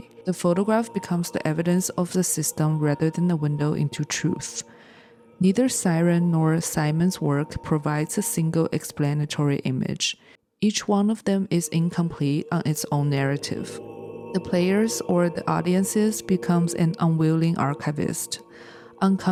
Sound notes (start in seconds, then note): 5.6 siren